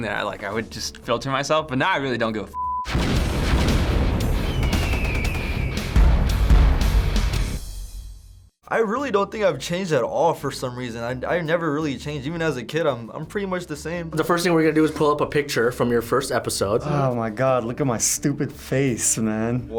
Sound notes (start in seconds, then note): 2.8 explosions blasting; 2.8 hardcore rock music; 4.5 eagle screeching; 4.5 guns firing